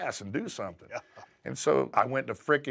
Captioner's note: laugh